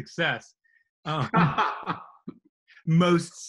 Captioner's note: laughing loudly